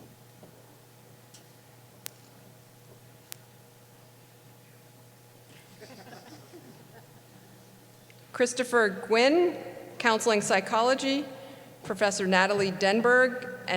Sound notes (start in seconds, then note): 5.6 laughs